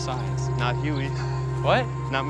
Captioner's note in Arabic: ضحك